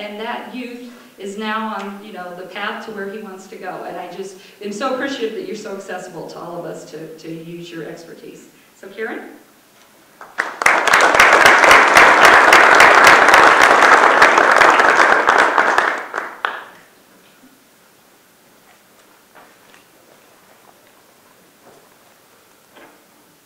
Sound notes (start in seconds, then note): 10.2 audience applause